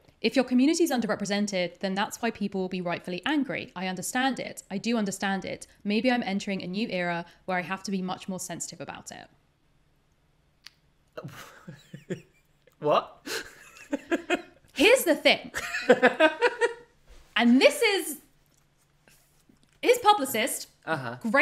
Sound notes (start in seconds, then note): 13.3 laughs